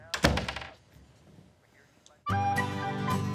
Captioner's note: door clicks; door bangs; upbeat festive music